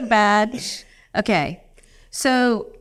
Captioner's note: laughing